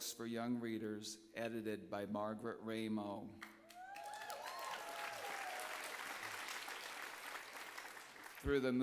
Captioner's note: applause